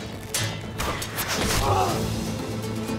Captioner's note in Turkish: Savaş sesleri; Ok fırlatma sesi; Müzik - Hareketli